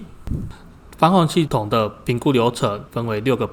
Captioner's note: impact